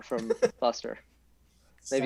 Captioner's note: giggles